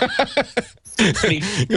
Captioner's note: laughing